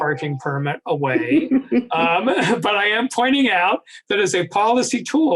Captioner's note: laughing